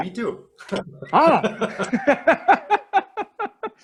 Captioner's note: laughing